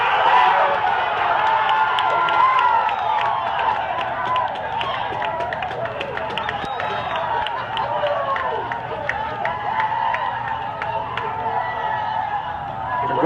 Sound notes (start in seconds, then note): 3.3 crowd Cheering